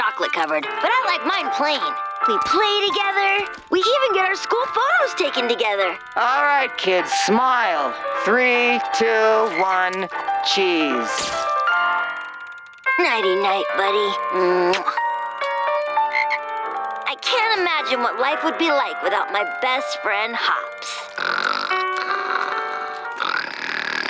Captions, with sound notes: But I like mine plain. We play together. We even get our school photos taken together. Alright, kid, smile. Three, two, one. Cheese. Nighty-night, buddy. [croaks] I can't imagine what life would be like without my best friend Hops. [snoring]